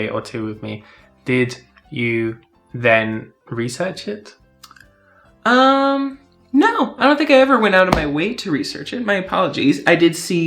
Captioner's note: gasp